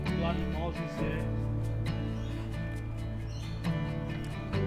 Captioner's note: wind